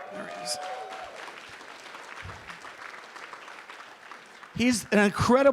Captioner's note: applause